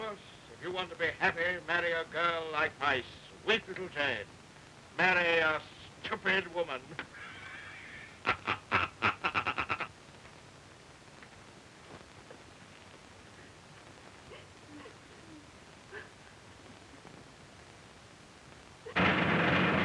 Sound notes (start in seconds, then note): 6.9 laughing; 12.1 women crying softly; 18.9 drum roll